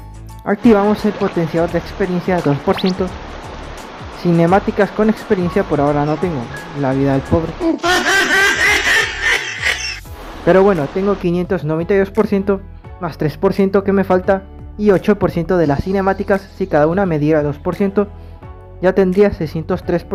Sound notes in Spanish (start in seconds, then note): 7.5 mujajajajajaja